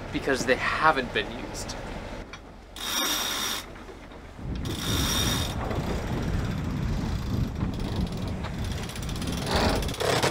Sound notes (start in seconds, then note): 3.0 gears crank; 3.1 wind blows